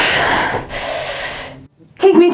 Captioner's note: deep Breath